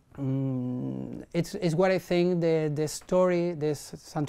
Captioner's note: none